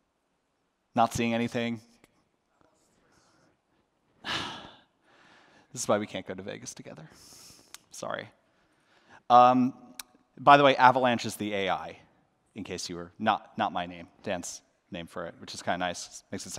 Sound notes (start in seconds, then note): 4.2 sigh